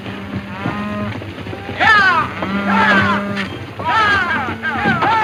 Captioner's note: cattle mooing; cowboys shouting